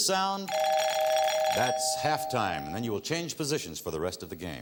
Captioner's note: bell rings